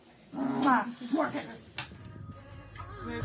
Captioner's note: makes kissing sound; music playing on speakers